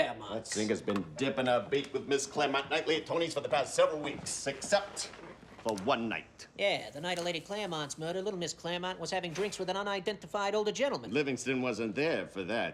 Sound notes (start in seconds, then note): none